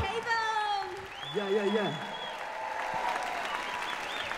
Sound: applause

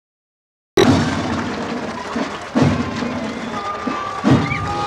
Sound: crowd cheering

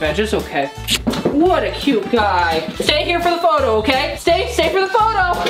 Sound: kissing

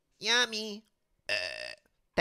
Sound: burp

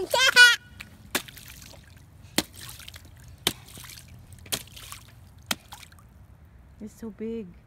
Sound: super cute and excited laughter; splashing and getting water in her boots

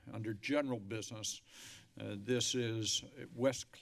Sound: inhales

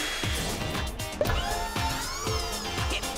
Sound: upbeat music; whirring

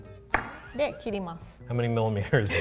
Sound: speaks in foreign language

